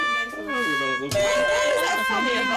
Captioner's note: loser's sad trumpet; buzzer